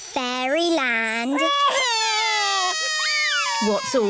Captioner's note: both crying loudly